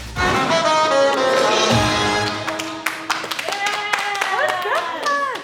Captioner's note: onlookers applauding